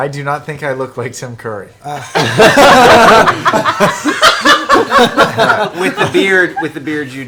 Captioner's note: all laugh